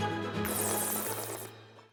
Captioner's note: slurps